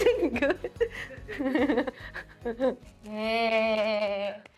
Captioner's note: laughing